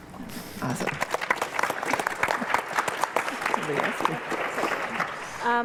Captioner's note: applause